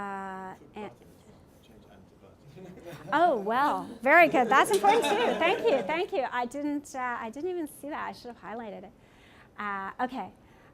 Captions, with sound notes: (speaking from off mic) (laughter) Oh well, very good that's important too. Thank you, thank you. I didn't even see that, I should've highlighted it.